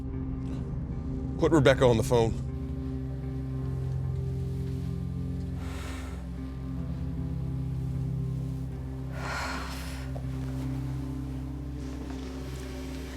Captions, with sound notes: Put Rebecca on the phone. [SIGH]